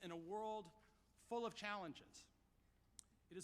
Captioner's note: none